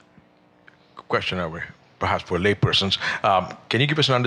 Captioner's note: voiceover